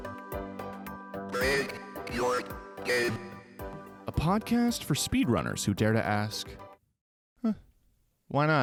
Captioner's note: Microsoft Sam Voice